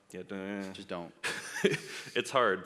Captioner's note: laughs